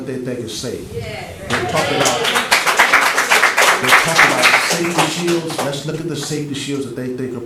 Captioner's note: applause